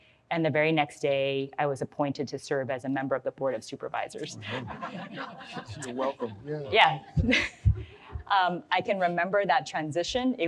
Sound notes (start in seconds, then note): 4.3 audience laughs